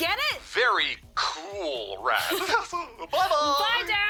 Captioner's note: both laugh